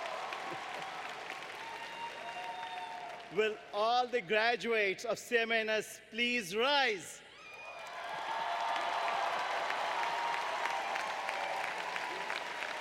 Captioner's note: applause; applause